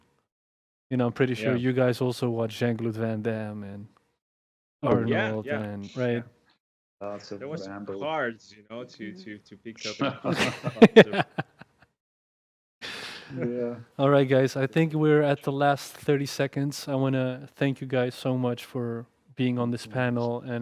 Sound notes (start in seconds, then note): 9.8 laughs